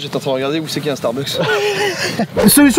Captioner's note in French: rires